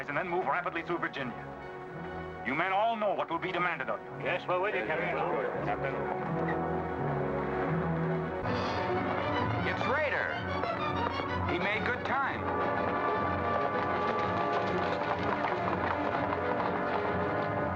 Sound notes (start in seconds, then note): 4.2 men chattering; 8.4 dramatic music; 13.6 hooves pounding; 17.4 dramatic music